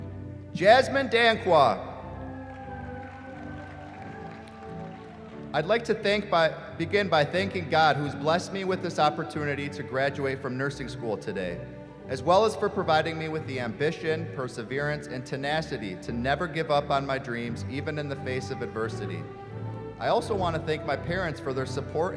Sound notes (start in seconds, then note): 1.9 cheering